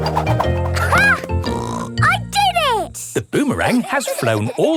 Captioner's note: snorts